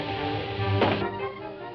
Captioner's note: thuds